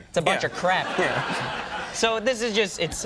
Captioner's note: audience laughing